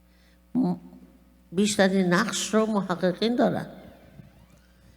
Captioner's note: speaking persian